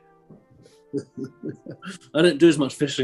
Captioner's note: chuckling